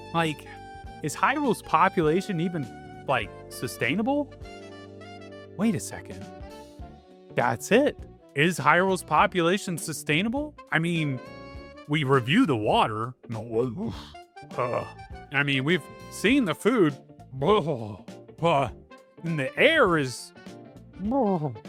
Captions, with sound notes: Like, is Hyrule population even, like sustainable? Wait a second. That's it! ^_^ Is Hyrule population sustainable? I mean, we reviewed the water! (Grunting) I mean, we've seen the food. BLEH!! And the air is... BLARGH!!!